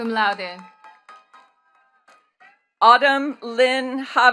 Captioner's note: attendees cheering and clapping